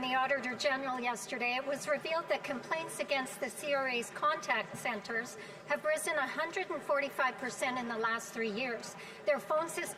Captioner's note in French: voix de l'interprète